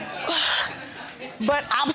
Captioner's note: exhales